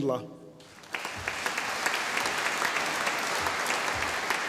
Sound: audience applauding

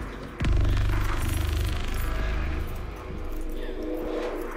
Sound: keys jangling

